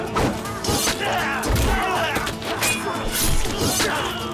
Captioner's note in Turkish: Bağırıyorlar